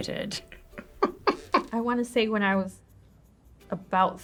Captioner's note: chuckles